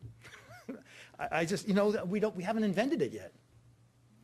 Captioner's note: laughing